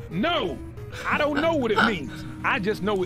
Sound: laughs

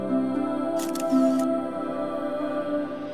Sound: photo clicking

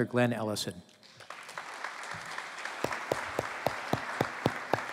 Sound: applause

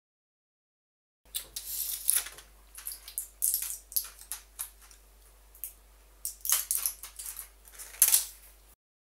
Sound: rustling

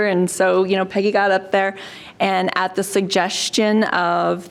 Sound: none

